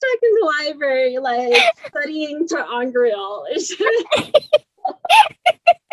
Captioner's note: laughs